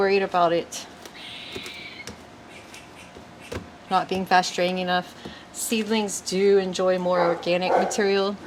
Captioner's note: dog barks / END